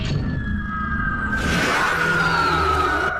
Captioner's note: roars